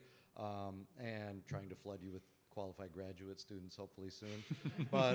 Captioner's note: laughter